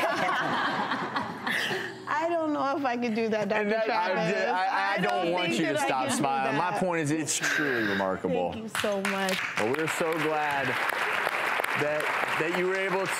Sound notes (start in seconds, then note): 0.0 laughs; 8.7 claps